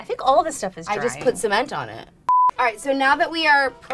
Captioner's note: beep